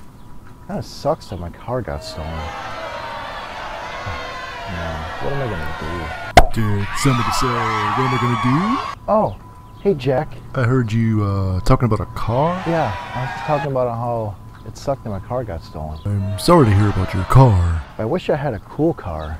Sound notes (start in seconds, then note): 1.8 booing; 4.5 booing; 6.3 pop; 8.2 cheering; 12.2 cheering; 16.0 booing